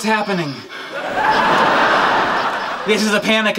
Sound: audience laughing

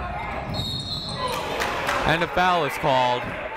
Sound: whistle blowing

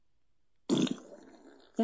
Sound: farts

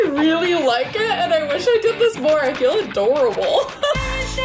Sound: laughs

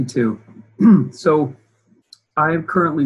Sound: clears throat

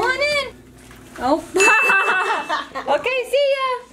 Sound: laughing

